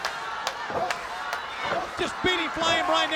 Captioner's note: crowd chanting; man punching